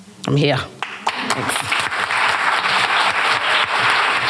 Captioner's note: applause